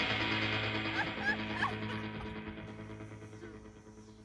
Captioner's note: Rachel laughing off-screen